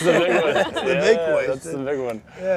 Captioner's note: laughter